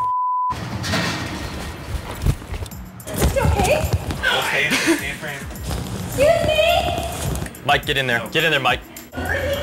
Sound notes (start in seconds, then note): 0.0 beep; 4.7 laughter